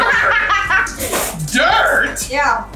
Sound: laughing

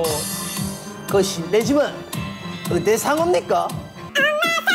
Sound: doing voice impressions

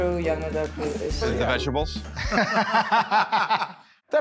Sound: both laugh

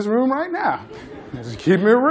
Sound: laughter

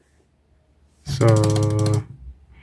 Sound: earrape spacebar button sounds

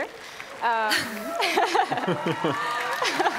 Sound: audience Applause

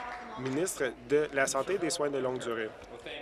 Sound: applause

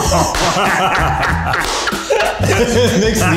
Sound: all laughing

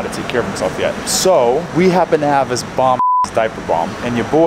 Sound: beep

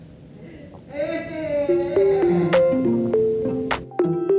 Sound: C continues to wail gently

